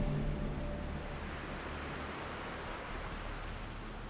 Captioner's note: waves on shore